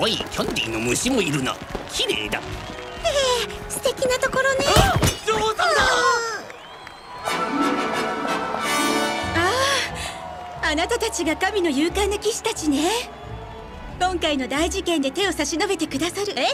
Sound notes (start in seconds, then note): 6.7 whimpers; 7.2 trumpet fanfare plays